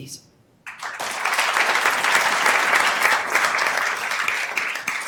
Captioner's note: attendees applauding